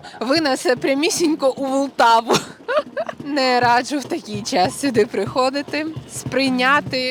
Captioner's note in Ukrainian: сміх